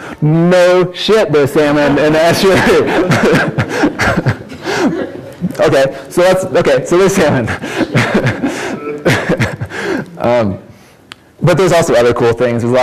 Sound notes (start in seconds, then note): 2.4 audience laughs; 10.0 laughs